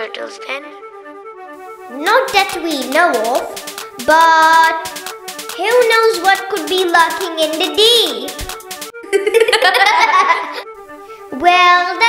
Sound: both laugh

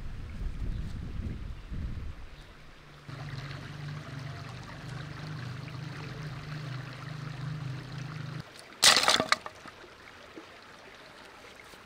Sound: sound of nature

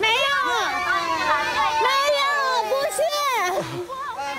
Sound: cheering

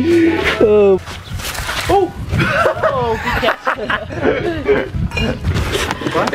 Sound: laughter

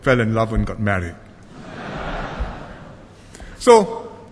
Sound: laughter

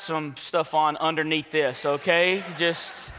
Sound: congregation laughs

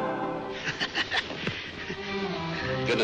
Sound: he chuckles

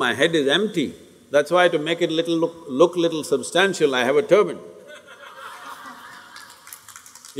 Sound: laughter

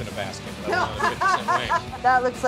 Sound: laughs

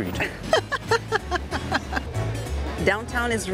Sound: laughs

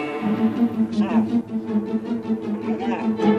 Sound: distorted voice

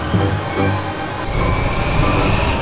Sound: fiery, windy rumble

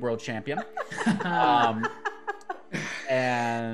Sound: group laughs

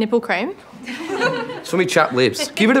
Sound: girls chuckling

